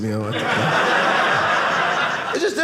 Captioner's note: audience laughing